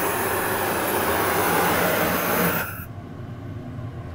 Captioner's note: hissing gets louder and ends